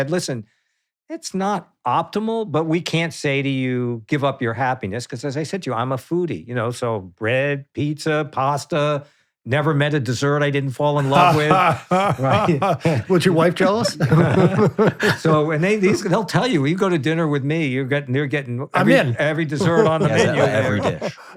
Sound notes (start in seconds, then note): 11.0 laughing